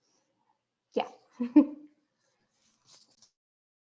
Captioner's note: laughing